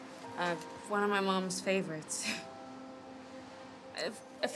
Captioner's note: laughs